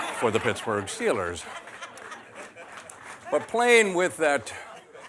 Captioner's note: laughter